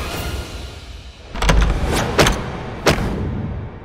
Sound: door opening; thudding

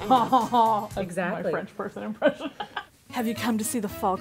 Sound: laughs

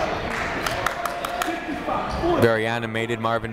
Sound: clapping

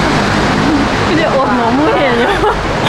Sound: laughing

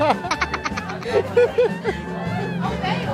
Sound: laughing out of control XD

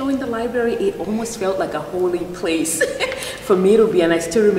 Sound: laughs

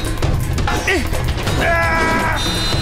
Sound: grunting

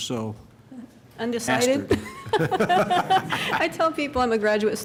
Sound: laughter

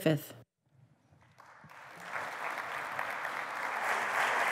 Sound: applause

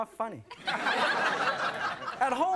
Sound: audience laughs

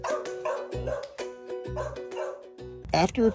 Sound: dogs barking

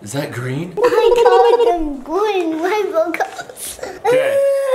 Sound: gurgles; hiccups and screams

